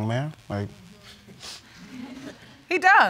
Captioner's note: audience laugh